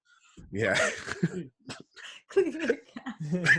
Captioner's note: laughs